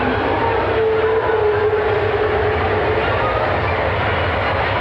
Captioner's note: effects roaring